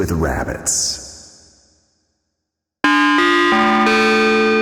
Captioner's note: an Evil chime